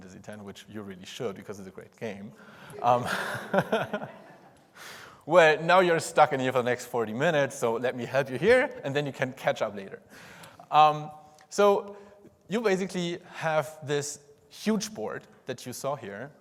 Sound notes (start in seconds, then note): 2.7 audience laughs; 2.8 laughs